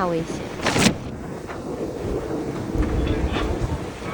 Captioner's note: the sound of waves hitting the boat